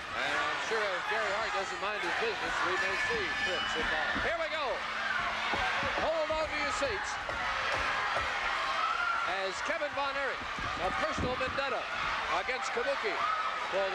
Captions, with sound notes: And I'm sure if Gary Hart doesn't mind his business, we may see Fritz involved. (bell ringing) Here we go. Hold onto your seats as Kevin Von Erich, a personal vendetta against Kabuki